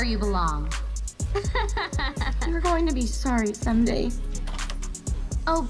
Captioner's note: Taylor laughs